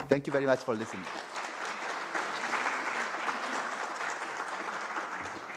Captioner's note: applause